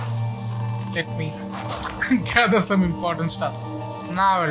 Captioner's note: laughing